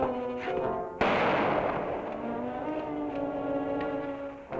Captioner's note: guns firing